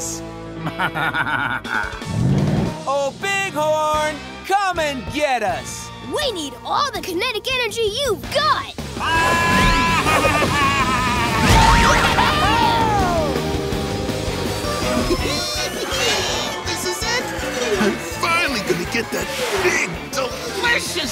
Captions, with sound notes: [laughing] Oh, Bighorn! Come and get us! We need all the kinetic energy you've got! [laughing] [cheering] [laughing] This is it! I'm finally gonna get that big, delicious